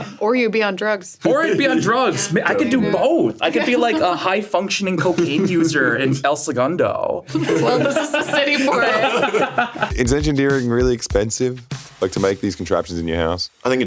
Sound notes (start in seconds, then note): 7.3 laughs